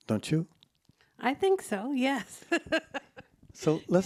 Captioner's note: laughs